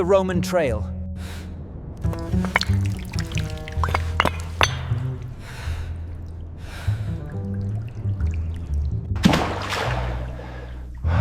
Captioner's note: water splashing